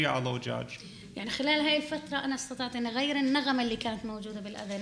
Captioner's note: speaking arabic